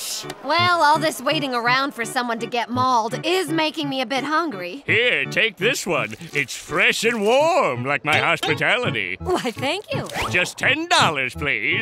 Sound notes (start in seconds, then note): none